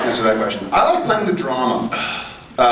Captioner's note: laughs; sighs